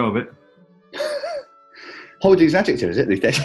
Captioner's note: chuckling